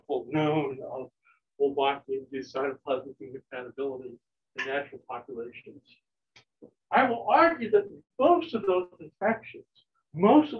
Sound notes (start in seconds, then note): none